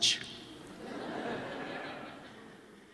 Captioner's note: laughter